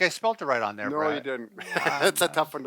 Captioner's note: laughs